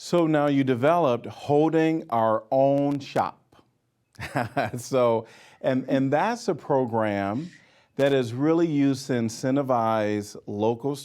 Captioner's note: laughing